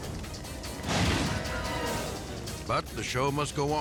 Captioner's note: edgy dramatic music; fire exploding